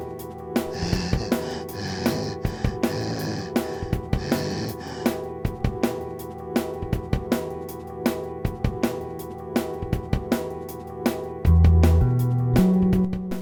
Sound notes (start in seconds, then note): 0.6 Groden breathes heavily